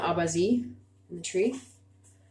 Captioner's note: speaking Abenaki Language